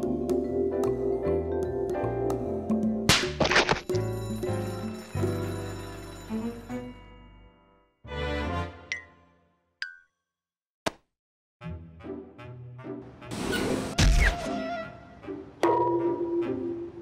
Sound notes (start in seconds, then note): 4.0 bell rings